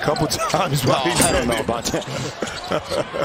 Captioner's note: laughter